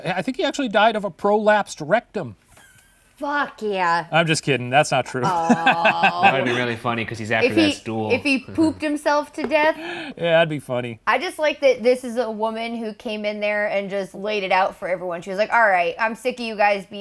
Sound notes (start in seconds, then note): 5.1 laughing